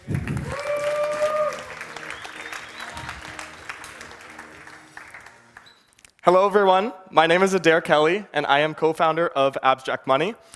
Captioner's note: audience applauds